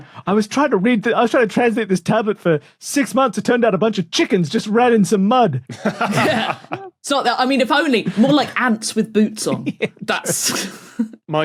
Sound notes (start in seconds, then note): 5.6 laugh; 9.4 giggle